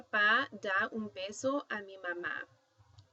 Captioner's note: speaking spanish